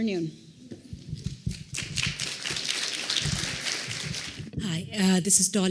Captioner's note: applause